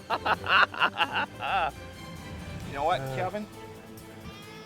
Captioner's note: laughter